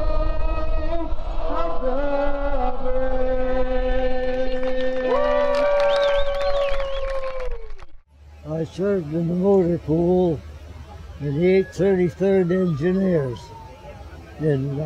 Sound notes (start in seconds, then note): 11.1 cheering